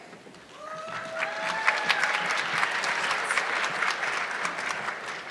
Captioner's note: audience clapping